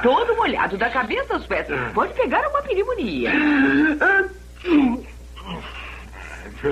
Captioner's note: sneezes